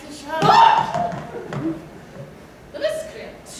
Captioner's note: KATISHA screams!